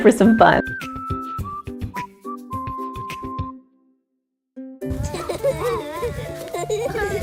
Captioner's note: upbeat music; laughing